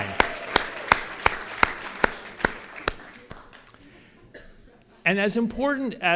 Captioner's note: audience cheers and applause